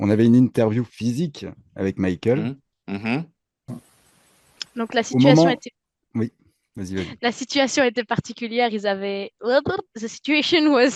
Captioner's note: translating from French